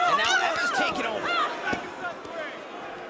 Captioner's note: crowd chatter